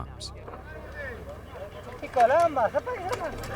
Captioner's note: non-english speech